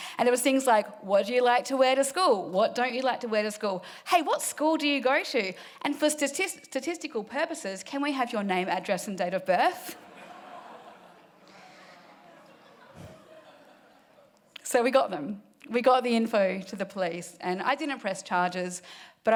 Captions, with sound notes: And it was things like, what'd you like to wear to school? What don't you like to wear to school? Hey, what school do you go to? And for statistical purposes, can we have your name, address, and date of birth? (audience laughing) So we got them. We got the info to the police and I didn't press charges,